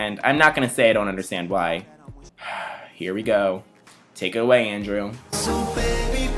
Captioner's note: sigh